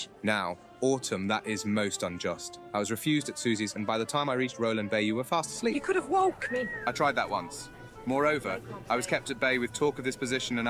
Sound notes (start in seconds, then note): none